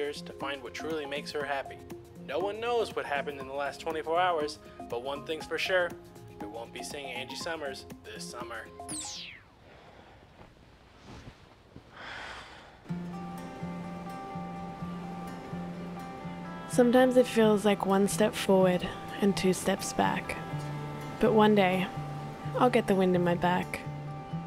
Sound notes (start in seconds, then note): 11.9 sighing; 13.6 acoustic guitar music